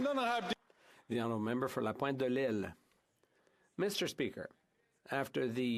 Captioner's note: speaking French